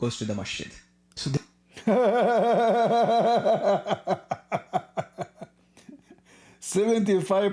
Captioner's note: Ketawa